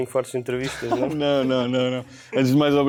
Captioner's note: laughs